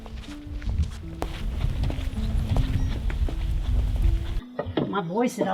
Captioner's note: footsteps